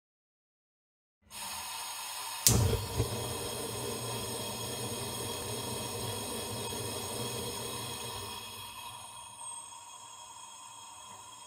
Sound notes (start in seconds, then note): 1.2 sound of gas stove